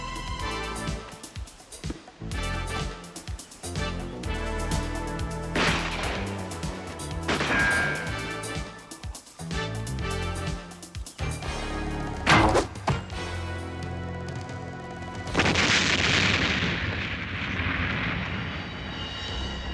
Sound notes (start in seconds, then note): 12.2 arrow whirring; 15.3 booming explosion